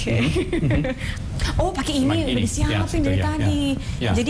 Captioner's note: non-english speech